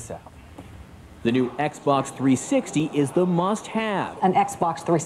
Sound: voiceover

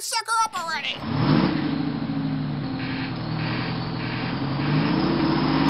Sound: engine starting

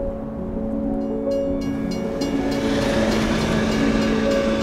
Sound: train bell rings

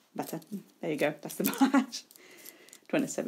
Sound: laughs

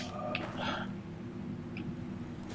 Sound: sighs

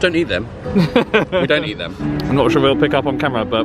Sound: laughing

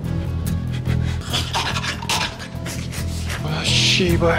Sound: confident

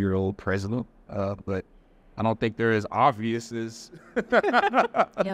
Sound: laughs

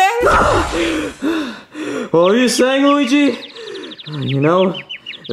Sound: panting

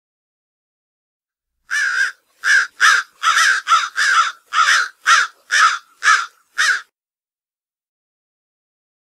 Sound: sound of American crow

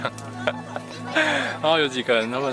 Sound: inhalation

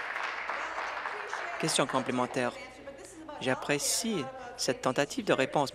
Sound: applause

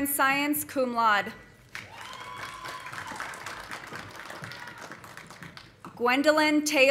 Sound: audience applauding; audience cheering

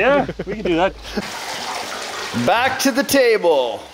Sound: water gurgling

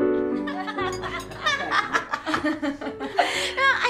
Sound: laughter

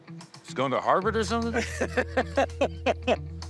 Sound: laughs

